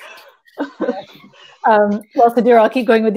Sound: chuckles

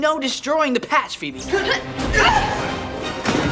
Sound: grunting

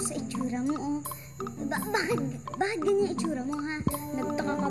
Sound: stammers

